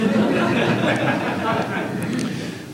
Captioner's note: La audiencia se ríe